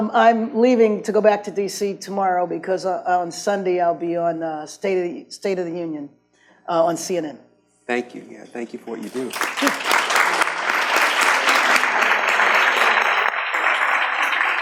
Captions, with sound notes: - I'm leaving to go back to DC tomorrow because on Sunday I'll be on State of the Union on CNN. - Thank you, yeah. Thank you for what you do. (audience claps)